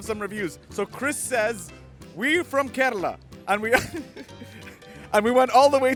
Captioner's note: laughs